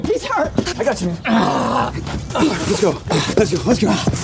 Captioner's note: Marty groaning